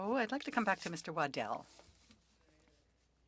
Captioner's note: speaking French